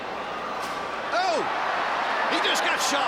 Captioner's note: crowd cheers